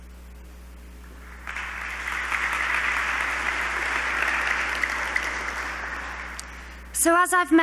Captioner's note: applause